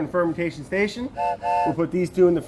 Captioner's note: train whistle blowing